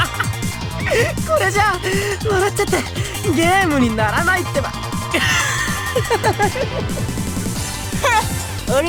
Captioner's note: breaking into hysterics; full hysterics